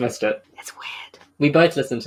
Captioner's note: whispes